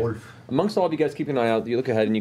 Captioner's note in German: auf Deutsch